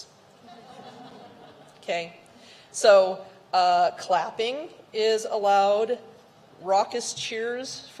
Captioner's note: laughter